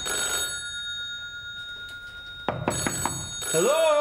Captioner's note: phone rings